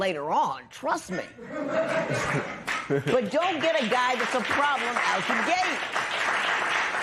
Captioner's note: laughter